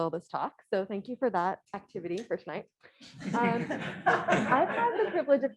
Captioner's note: polite laughter